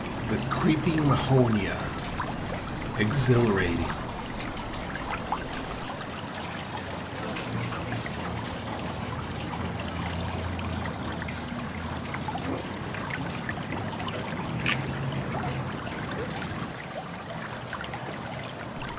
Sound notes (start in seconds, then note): 5.3 water running